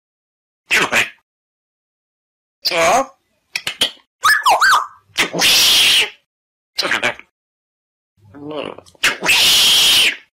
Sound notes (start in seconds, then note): 3.5 kissing smackingly; 4.2 whistling